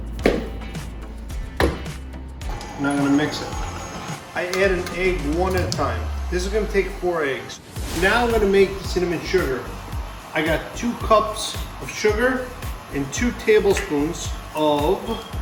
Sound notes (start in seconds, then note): 0.3 dough plops; 2.4 mixer buzzes